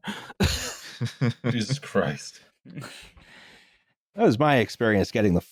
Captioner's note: laughter